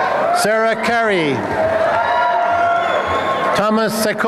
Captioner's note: applause and cheering